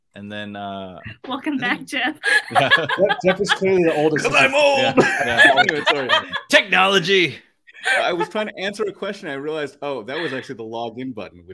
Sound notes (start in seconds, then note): 2.2 laughs; 5.1 laugh